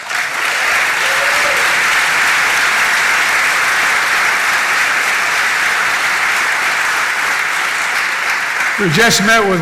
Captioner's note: applause